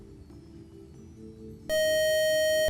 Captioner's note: loud buzzer